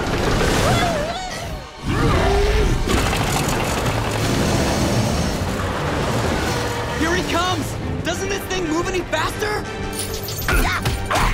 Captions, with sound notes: Whoo! [growling] Here he comes. Doesn't this thing move any faster? [grunting]